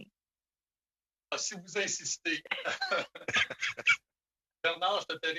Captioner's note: speaking French